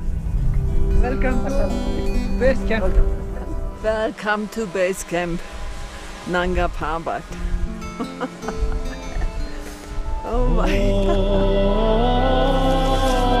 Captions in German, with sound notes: Welcome to ... Basecamp. Welcome to Basecamp. Nanga Parbat. (Lachen, idyllische Musik) Oh weia. (Sphärische Musik mit Gesang)